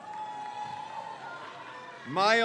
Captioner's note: crowd cheers